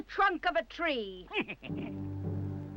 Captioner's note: dwarf chuckles